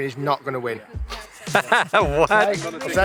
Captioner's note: laughs